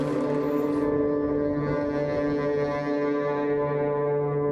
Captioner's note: container truck moving